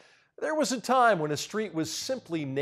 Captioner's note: none